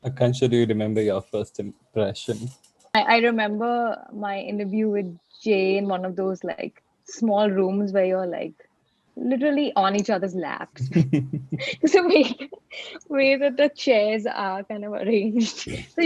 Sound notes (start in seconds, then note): 10.8 laughing